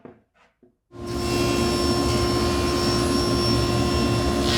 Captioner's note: cutter whirring